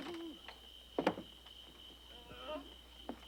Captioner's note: owl hooting